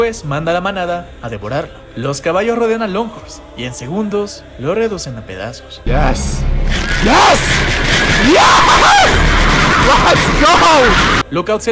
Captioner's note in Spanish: grito